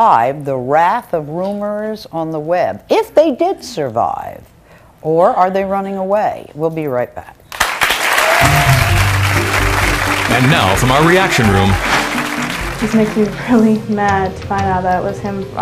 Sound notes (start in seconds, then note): 7.5 audience applauding; 8.4 bright music